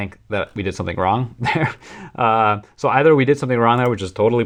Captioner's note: laughter